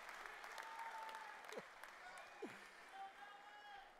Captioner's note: cheers and applause